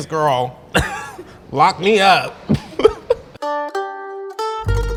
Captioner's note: laughs; gentle instrumental music